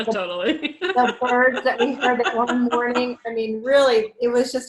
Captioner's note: laughs